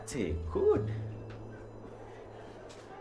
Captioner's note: wind